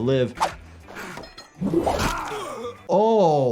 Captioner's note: characters groan, weapon slashes